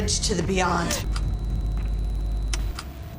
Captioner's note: button clicking; tense music; button clicks